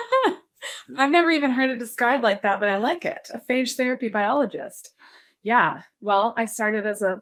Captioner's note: laughs